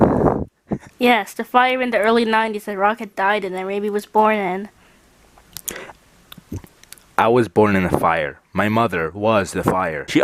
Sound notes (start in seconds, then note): 5.5 uncomfortable licking noises